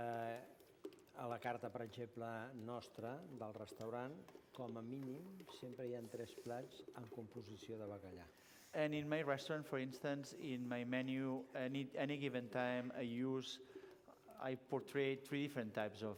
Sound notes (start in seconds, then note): 1.8 non-english speech